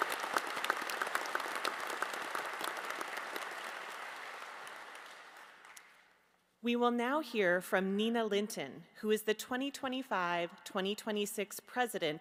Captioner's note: applause